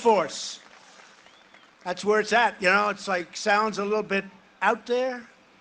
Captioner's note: cheering and applause